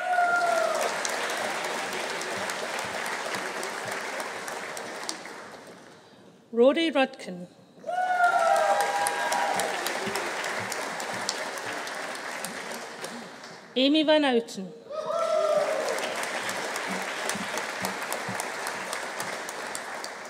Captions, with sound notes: (AUDIENCE APPLAUDING) (AUDIENCE CHEERING) Rory Rudkin. (AUDIENCE APPLAUDING) (AUDIENCE CHEERING) Amy Van Houten. (AUDIENCE APPLAUDING) (AUDIENCE CHEERING)